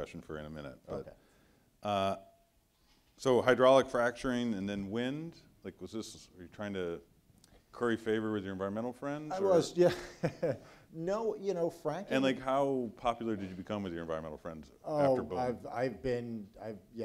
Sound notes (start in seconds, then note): 9.6 laughs